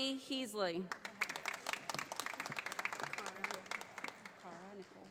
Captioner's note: audience applauding